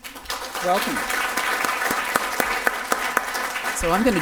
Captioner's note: audience applause can be heard